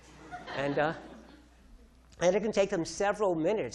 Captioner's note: audience laughing